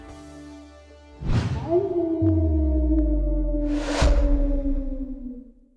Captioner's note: coyote howling